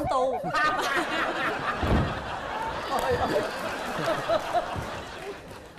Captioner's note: laughing